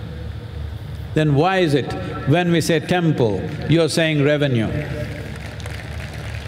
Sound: applause

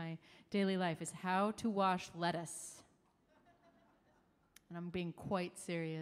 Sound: audience laughing

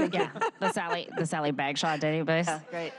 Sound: laughter

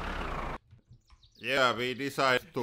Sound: birds chirping

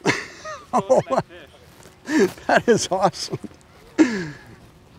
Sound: laughing

